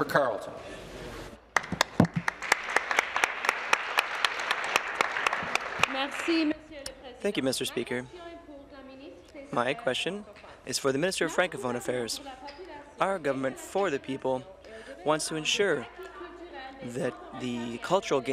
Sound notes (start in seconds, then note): 0.0 applause; 4.1 applause; 9.3 speaking in French